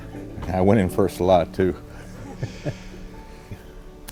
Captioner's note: chuckles